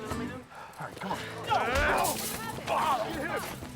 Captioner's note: grunts